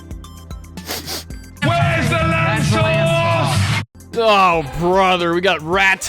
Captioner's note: sniff sniff